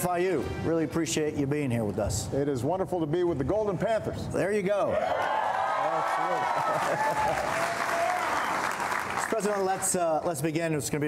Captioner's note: applause